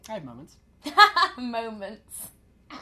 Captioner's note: laughter